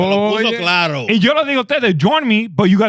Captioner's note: speaking In Foreign Language